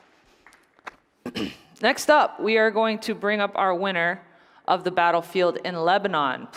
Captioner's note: applause